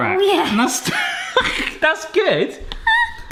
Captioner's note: laughs